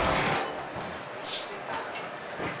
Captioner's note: sniff